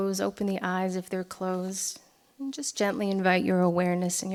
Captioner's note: none